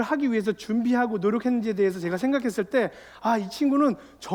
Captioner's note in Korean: none